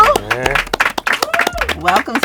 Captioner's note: clapping